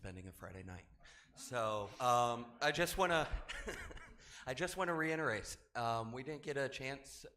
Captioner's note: laughs